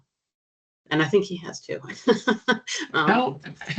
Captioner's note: chuckling